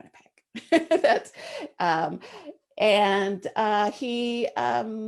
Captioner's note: laughs